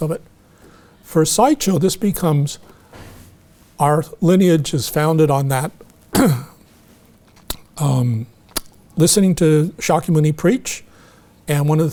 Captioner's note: clears throat